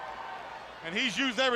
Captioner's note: crowd chatter